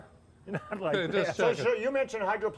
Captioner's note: laughing